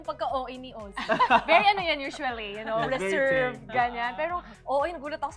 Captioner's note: laughter